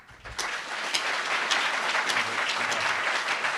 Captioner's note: applauds